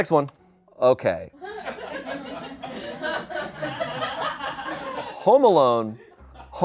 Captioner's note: people laugh